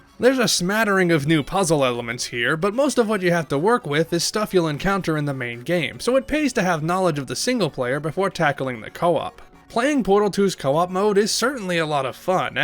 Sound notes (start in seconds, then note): none